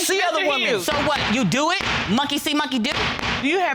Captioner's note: gavel bangs